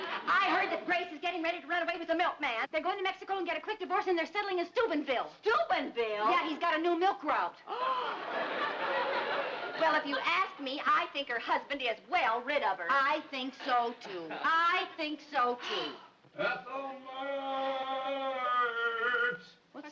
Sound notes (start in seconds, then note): 7.8 audience laughs; 8.0 Ethel gasps